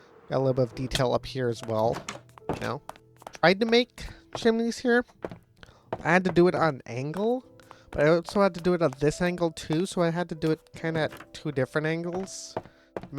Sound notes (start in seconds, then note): none